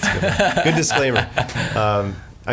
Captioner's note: laughs